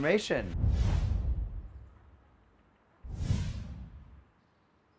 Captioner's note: air whooshes